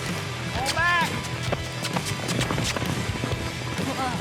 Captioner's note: fast hoof beats